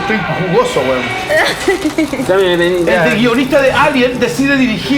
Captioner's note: laughs